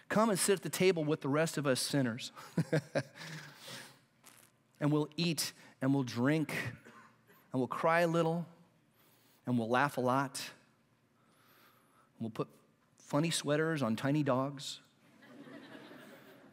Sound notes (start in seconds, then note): 15.1 laughter